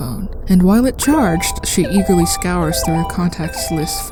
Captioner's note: Evelyn's phone rings